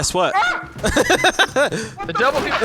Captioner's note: laughing